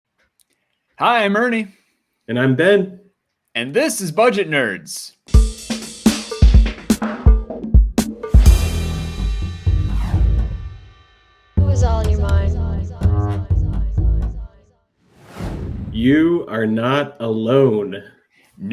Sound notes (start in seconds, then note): 5.3 upbeat music; 15.1 page whooshes